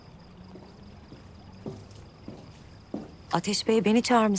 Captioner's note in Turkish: Ayak Sesi